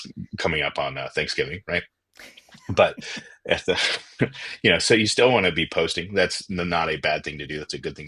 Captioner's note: laughter